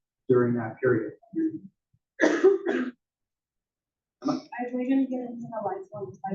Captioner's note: cough